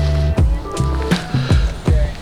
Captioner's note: woman chattering